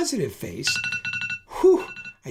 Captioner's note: ringing